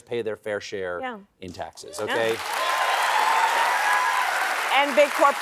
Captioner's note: cheering